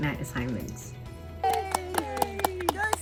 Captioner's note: family cheering